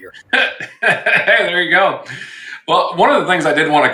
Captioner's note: laughing